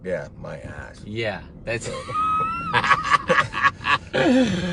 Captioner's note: laughs